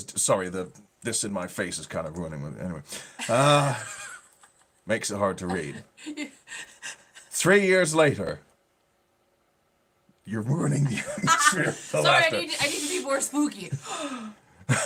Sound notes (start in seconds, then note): 3.2 laughing